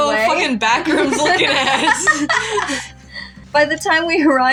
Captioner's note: laugh